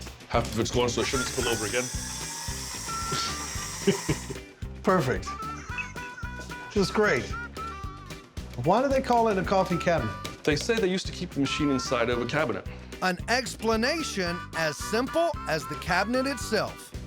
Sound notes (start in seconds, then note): 1.0 whirring sound; 5.5 chuckles